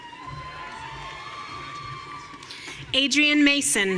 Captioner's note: audience cheering